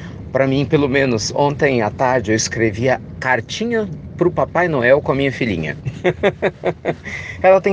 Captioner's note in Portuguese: risadas